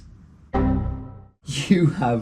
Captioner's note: error tone beeping